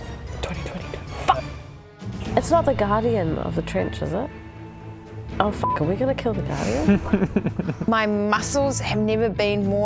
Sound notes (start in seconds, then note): 6.8 evil laugh